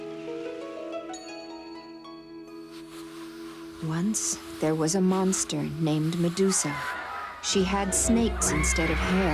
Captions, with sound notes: and we all three come back here together, agreed? - Agreed. - Agreed. (horse neighs)